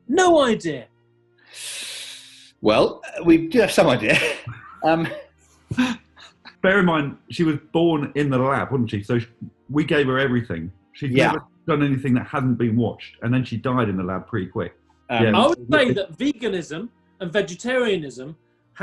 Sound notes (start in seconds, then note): 1.6 inhales through teeth; 2.8 laughing